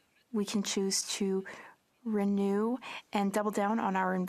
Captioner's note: speaking French